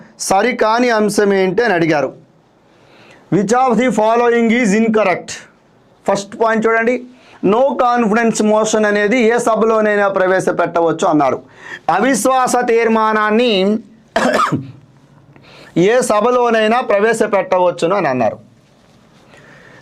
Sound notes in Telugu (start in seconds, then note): 14.1 దగ్గు; 14.1 గొంతు సవరించుకోవడం